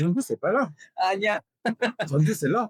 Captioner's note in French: en coréen